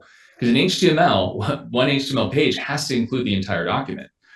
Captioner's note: laughs